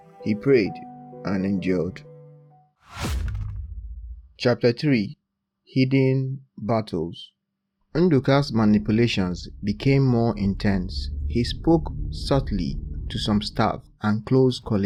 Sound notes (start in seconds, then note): 2.9 thud